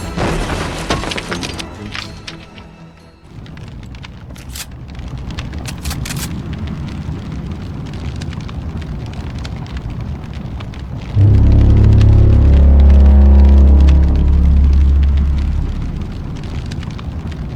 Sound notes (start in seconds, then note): 3.3 flames whooshing; 5.6 gun clicks; 11.1 tense music